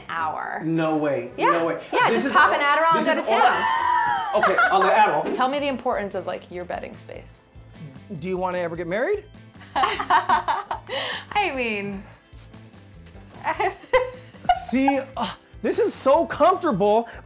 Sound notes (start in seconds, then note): 3.6 laughter